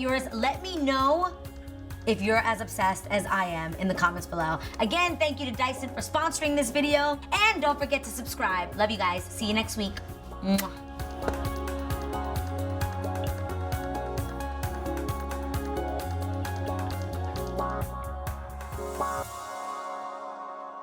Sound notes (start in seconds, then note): 10.4 kisses